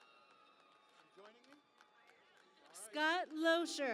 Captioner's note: cheering and Applause